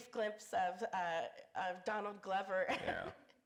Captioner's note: laughs